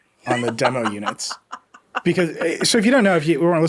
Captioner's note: laughing